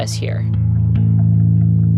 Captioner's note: soundbite of archived recording